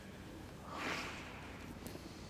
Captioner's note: Jim sighs